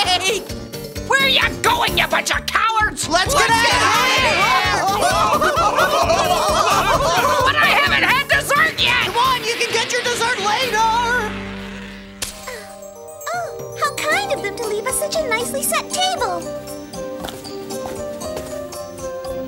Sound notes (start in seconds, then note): 4.5 yelling; 16.8 light music